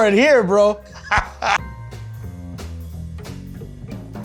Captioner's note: laughs